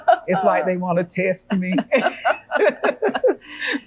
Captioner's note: laughing